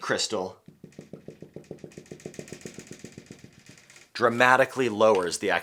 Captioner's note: marker tapping